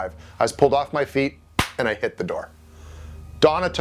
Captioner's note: hands slap